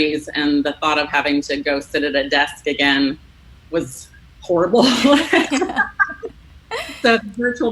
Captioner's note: laughs